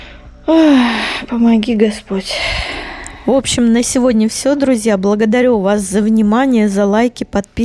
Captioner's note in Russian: вздыхает